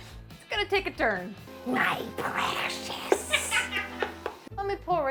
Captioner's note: laughs